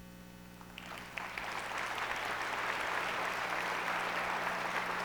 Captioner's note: audience applauds